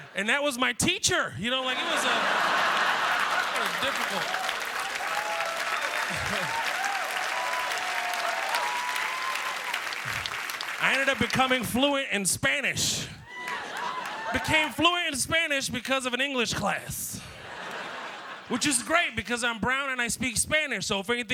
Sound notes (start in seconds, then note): 1.6 laughter; 2.1 applause; 10.2 applause; 17.2 laughter